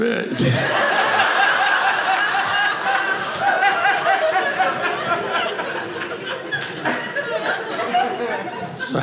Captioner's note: audience laughing